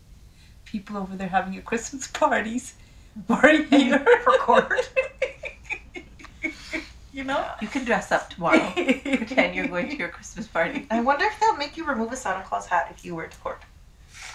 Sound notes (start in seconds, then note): 1.2 voice breaks; 3.3 laughing